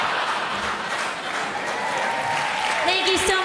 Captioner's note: crowd laughs; applause